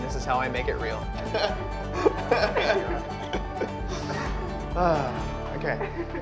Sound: laughing

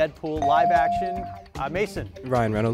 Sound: device dings

